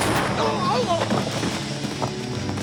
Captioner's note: grunts